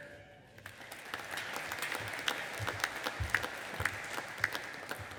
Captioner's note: audience applauding